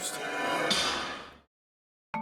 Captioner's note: sound of a loud metal slam